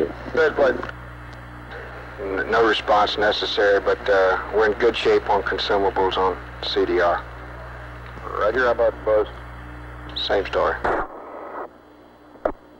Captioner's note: mission Control Audio